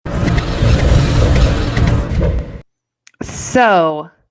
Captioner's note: fast electric whoosh